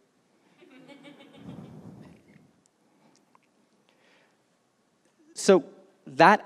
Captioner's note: laughter